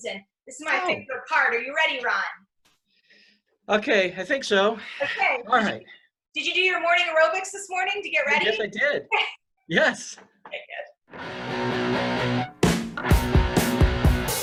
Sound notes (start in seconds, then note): 10.8 laughs; 11.2 upbeat music